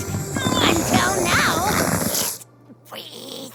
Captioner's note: groaning